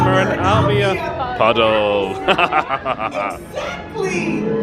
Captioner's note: laughs